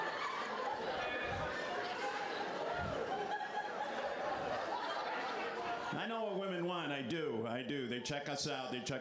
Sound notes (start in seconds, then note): 5.3 laughter